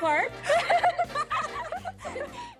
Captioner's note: laughter continues